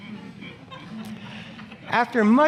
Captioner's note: audience laughing